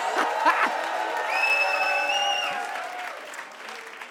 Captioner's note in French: le public s'exclame et applaudit; sifflements